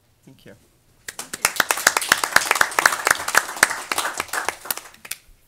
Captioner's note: audience applause